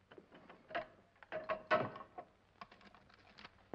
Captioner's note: safe clatters